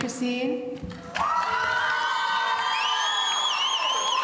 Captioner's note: audience cheering